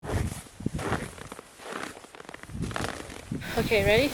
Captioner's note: snow crunching